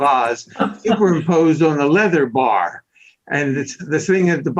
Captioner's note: laughs